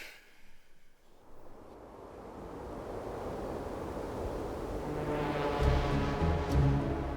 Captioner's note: suspenseful music; wind whirls